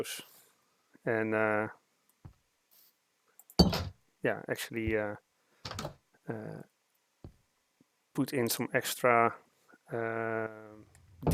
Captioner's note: long pause